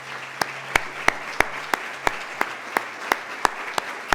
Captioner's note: applause